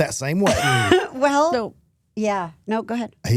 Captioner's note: laughs